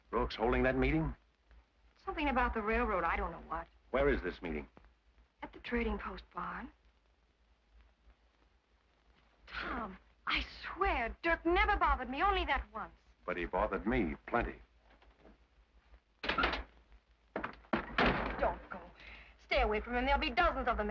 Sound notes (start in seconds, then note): 17.3 door slams